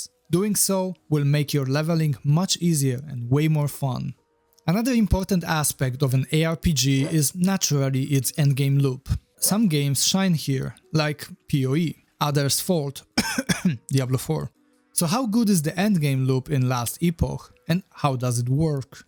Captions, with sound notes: Doing so will make your leveling much easier and way more fun. Another important aspect of an ARPG is naturally its end game loop. Some games shine here like POE. Others fold *cough* Diablo 4. So how good is the end game loop in Last Epoch and how does it work?